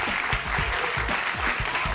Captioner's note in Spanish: aplausos